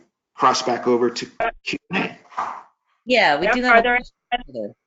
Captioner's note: audio warps